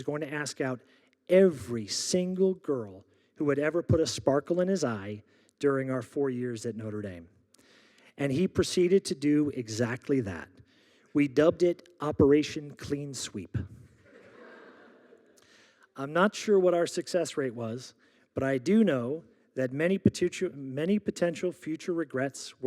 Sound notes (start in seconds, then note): 14.0 audience laughing